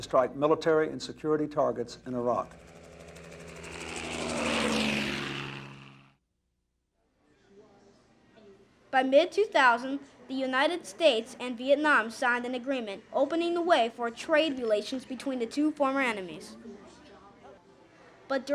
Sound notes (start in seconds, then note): 1.9 helicopters buzzing